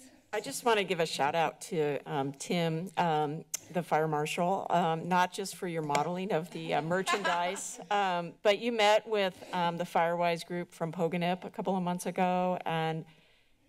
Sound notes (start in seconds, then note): 6.9 laughter